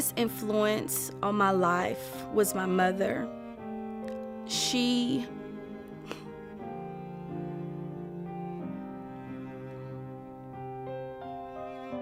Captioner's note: exhale